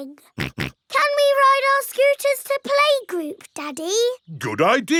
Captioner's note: snorts